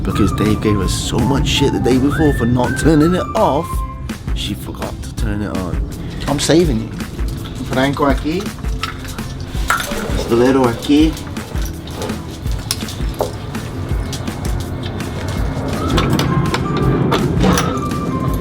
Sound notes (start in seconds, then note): 7.3 Spanish; 15.8 upbeat music